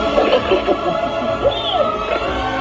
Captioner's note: warm magical music; laughing